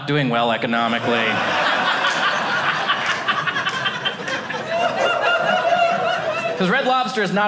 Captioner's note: audience laughing